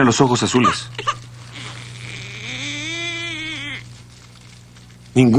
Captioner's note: baby crying